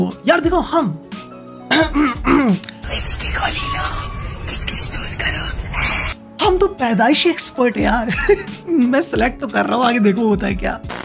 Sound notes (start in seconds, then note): 1.7 clearing the throat; 8.2 laughing